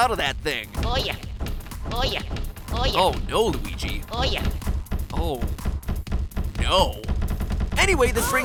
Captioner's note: in-game audio; cabinet thumps